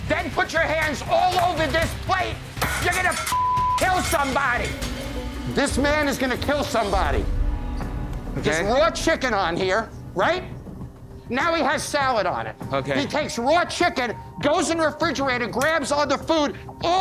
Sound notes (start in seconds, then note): 2.6 glass shattering; 3.2 beep